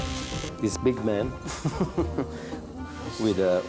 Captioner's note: chuckles